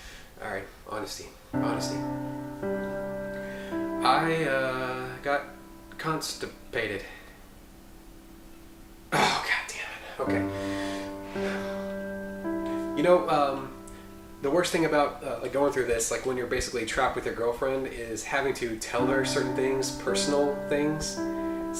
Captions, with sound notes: Honesty. Honesty... (hesitantly) I, uh, got...constipated. (groans) You know... the worst thing about going through this when you're basically trapped with your girlfriend is having to tell her certain things--personal things.